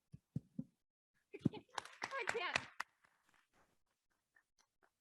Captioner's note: audience claps